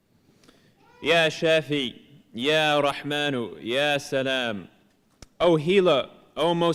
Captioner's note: non-english speech